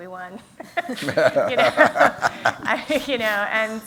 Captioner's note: laughter